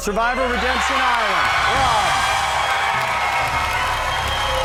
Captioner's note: audience cheers